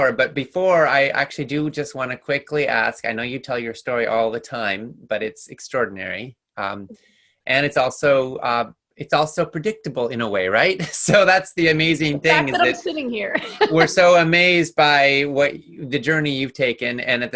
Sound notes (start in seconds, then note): 12.0 laughs